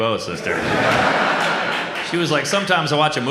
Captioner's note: audience laughs